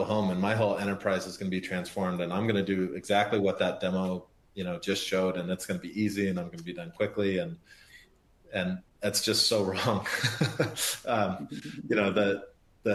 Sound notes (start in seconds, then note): 11.2 laughs